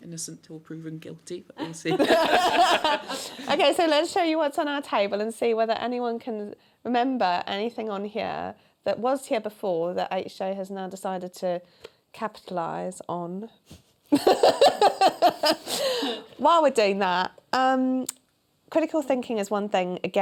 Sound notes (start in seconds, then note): 1.9 laughter